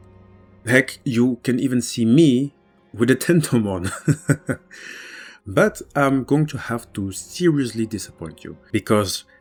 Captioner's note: laughs